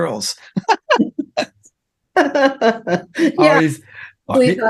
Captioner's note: laughing